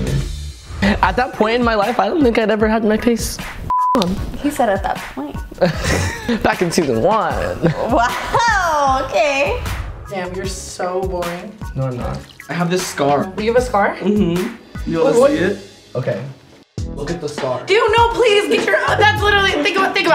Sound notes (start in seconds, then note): 3.7 beep; 5.7 snorts